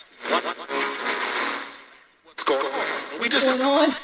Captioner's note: radio static